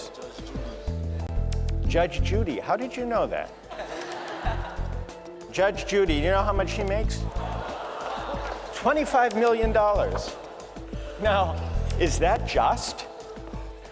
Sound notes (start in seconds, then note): 3.6 laughter; 7.2 gasps, laughter